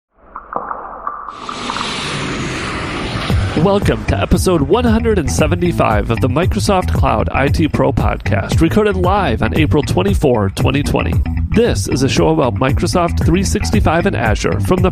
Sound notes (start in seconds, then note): 1.3 airplane engine roars; 3.2 upbeat music